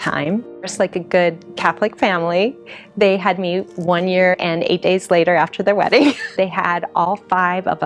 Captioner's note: laughs